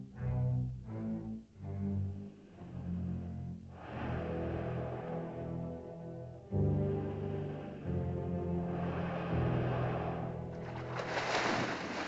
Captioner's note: ominous music; dinosaur's labored breathing; ominous music; water splashes